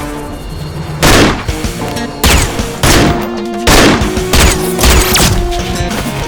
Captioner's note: gunshot